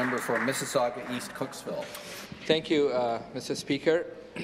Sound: some Applause

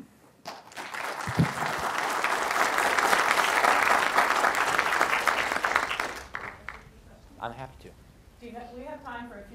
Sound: applause

